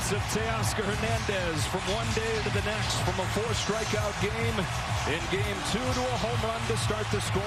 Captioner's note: cheers and applause